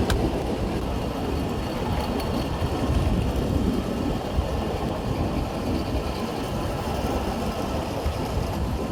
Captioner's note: mine lift hums, air rushing